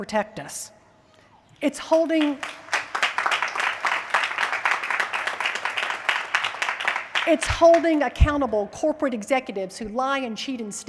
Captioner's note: applause